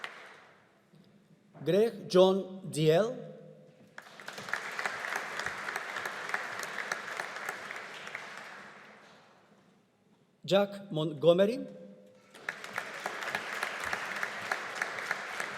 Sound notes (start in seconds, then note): 3.9 audience applauding; 12.3 audience applauding